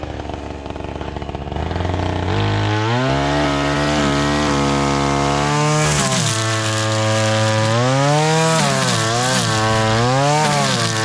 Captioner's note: engine noise